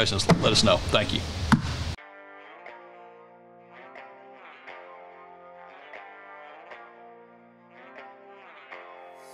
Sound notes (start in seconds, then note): 3.3 silence